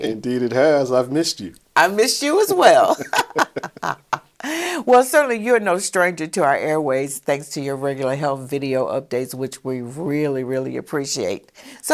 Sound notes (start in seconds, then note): 2.7 chuckle